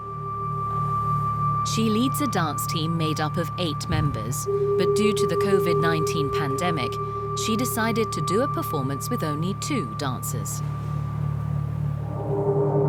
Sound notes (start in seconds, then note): 1.6 voiceover